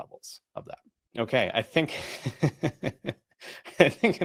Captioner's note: laughs